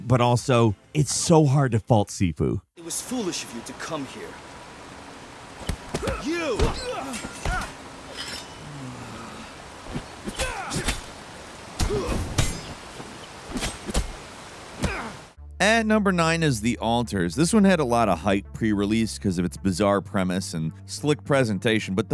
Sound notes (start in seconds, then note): 5.6 punches landing; 10.2 characters grunting